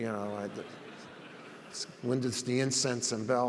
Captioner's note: audience laughs